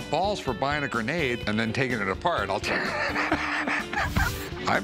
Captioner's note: laughs